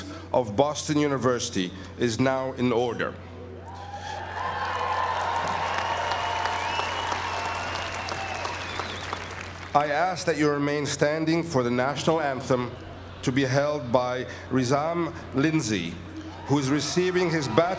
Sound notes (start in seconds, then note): 4.2 applause